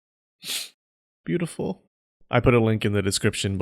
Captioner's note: sniff